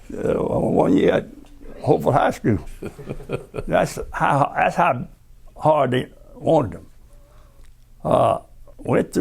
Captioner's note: laughter